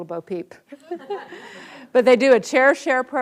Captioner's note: audience laughs